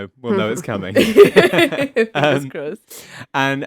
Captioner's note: all laugh